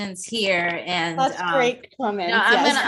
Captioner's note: laughs